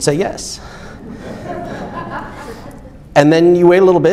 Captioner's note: audience laughs